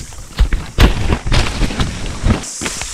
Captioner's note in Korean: 툭! 툭!